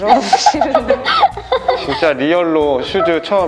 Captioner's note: laughter